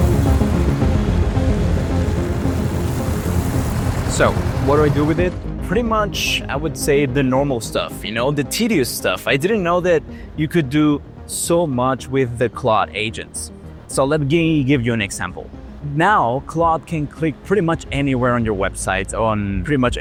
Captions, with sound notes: (engine roaring) So what do I do with it? Pretty much, I would say the normal stuff, the tedious stuff. I didn't know that you could do so much with the Claude agents. So let me give you an example. Now Claude can click pretty much anywhere on your website or pretty much